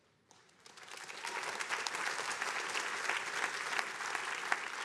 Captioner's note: attendees applauding